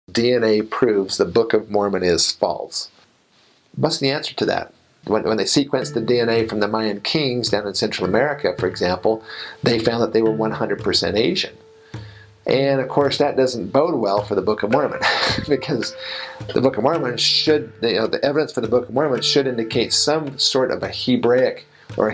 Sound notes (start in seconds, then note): 15.0 laughs